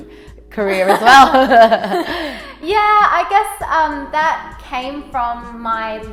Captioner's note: laughs